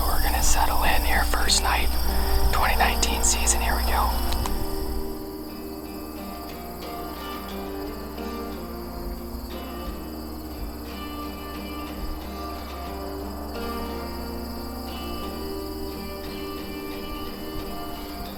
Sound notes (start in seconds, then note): 5.6 light instrumental; 8.5 nature sounds